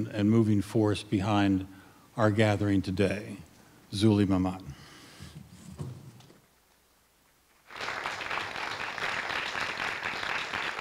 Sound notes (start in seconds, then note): 7.6 applause